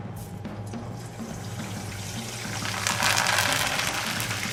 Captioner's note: oil sizzling